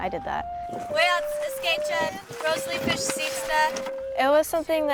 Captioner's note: speaking Native language